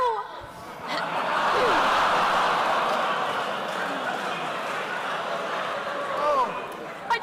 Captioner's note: laughter